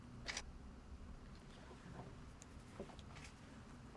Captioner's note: shutter clicking